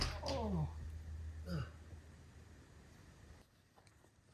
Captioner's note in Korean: 곡소리